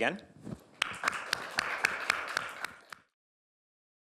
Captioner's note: applause